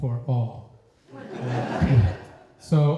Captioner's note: laughter